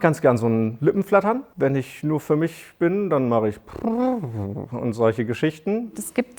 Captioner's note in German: brrr